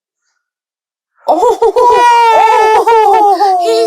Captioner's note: gremlin joy